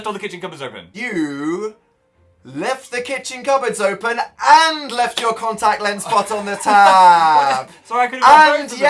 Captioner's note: Phil giggles